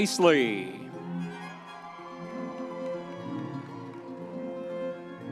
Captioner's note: audience members cheering